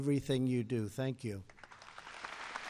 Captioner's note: applause